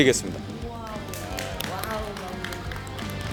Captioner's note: applause